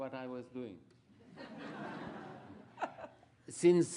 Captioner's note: laughter